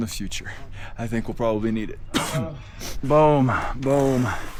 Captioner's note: coughs